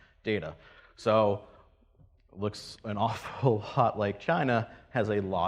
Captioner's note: laughs